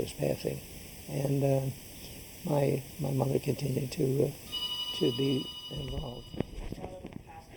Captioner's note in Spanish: teléfono El sonar